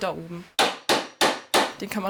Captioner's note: hammering